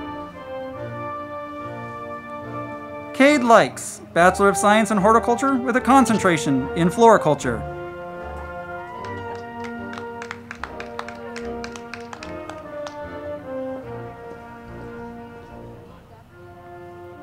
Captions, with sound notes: Kade Likes, Bachelor of Science in Horticulture with a Concentration in Floriculture. (band music) (crowd clapping)